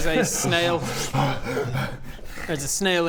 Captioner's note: tired noises